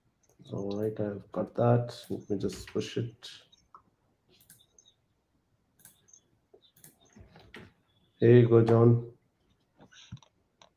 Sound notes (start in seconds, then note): none